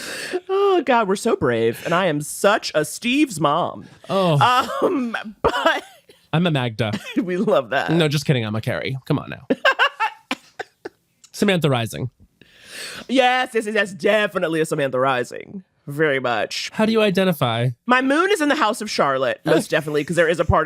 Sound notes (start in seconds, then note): 4.0 sighs; 9.5 laughs